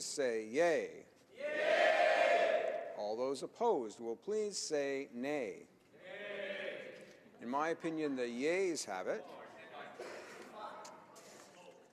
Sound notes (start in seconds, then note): 1.4 screaming